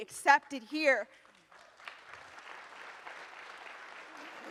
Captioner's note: audience applauds